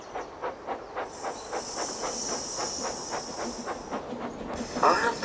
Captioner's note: steam Hisses